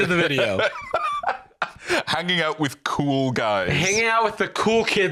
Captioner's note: laughs